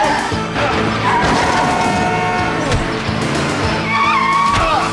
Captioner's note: tires squealing and horn honking